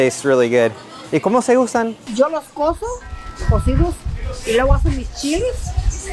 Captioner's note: and shopper speaking Spanish